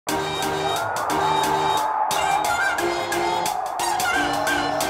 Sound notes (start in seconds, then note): 0.0 crowd cheering; 0.0 uplifting hip-hop beat